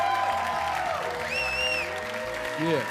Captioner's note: audience clapping and cheering